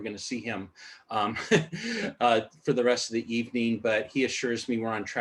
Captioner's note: laughter